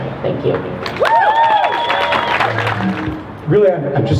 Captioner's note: crowd cheers